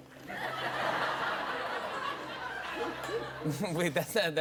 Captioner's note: laughter